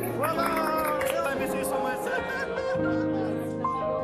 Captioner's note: lively chatter, laughter